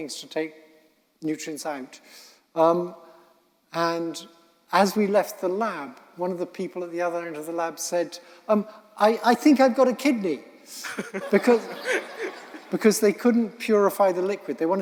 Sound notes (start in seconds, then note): 11.0 audience laughing